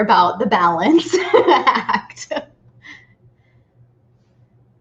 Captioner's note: laughing